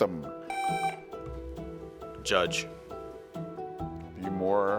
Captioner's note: tone sounds